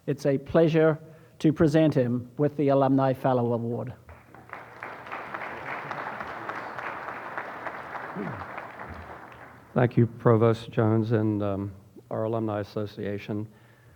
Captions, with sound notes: It's a pleasure to present him with the Alumni Fellow Award. (audience applauding) - Thank you provost Jones and our alumni association,